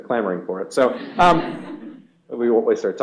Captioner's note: laughter